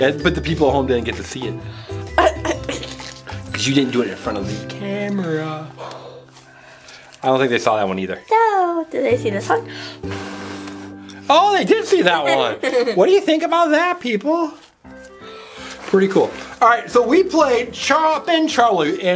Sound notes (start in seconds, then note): 6.0 blows air; 9.7 blows air; 12.1 assistant laughs